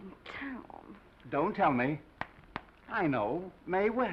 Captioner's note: snaps fingers